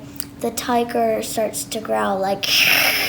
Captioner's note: hisses